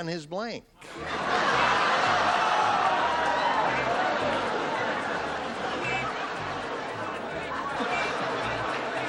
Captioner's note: laughter